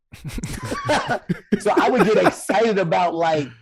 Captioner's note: chuckling